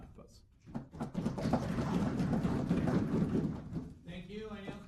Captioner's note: applause